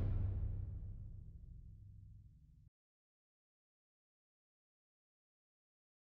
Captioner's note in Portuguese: sem áudio